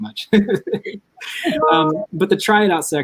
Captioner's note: laughs